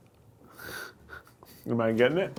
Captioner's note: laughing